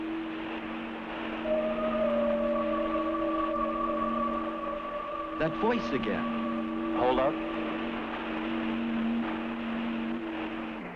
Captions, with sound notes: (siren wailing) - That voice again! - Hold up?